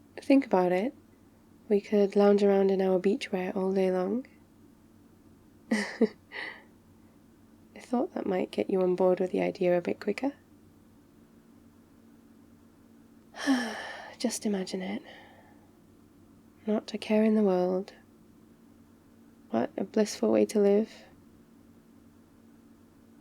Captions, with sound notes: think about it... we could lounge around in our beachwear all day long *laughs* I thought that might get you on board with the idea a bit quicker *sighs* just imagine it not a care in the world what a blissful way to live